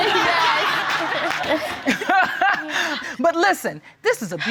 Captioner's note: all laughing; judge laughing